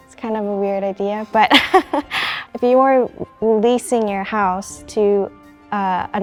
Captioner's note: laughs